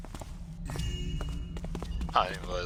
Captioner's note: joyous chime